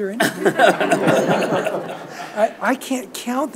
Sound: audience laughs

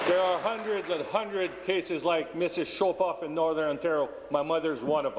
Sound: applause

